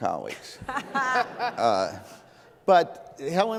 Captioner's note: laughs